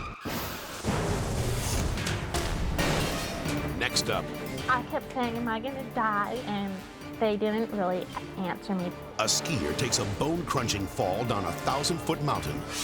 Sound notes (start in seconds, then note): 0.1 car skidding and crashing; 2.5 dramatic whoosh